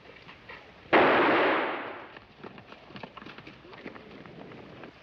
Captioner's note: gunshot bangs